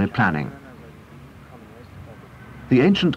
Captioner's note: indiscriminate chatter